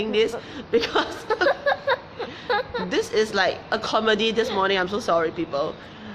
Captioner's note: laughs